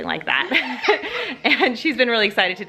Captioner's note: both laugh